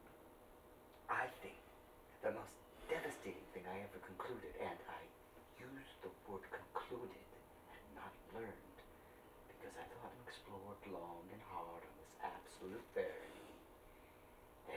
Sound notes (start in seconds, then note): none